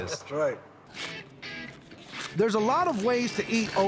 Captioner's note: shucking corn